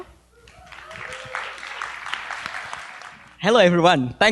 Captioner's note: applause